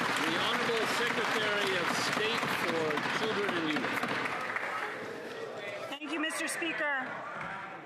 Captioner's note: some Applause